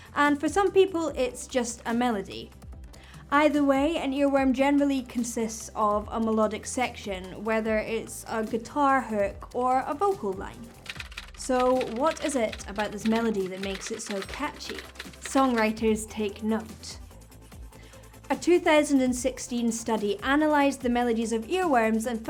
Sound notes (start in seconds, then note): 10.7 keyboard typing